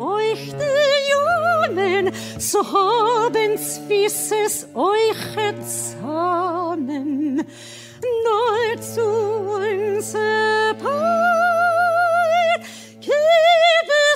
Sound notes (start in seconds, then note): none